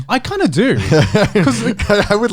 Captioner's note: laughs